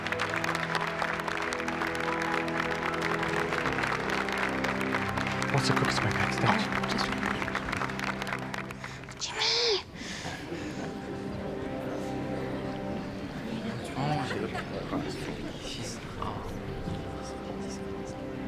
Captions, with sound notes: - What's the quickest way downstairs? - Just through there. - Jimmy? (crowd murmuring)